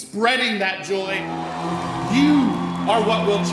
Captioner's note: audience cheering